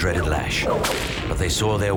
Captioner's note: whip cracks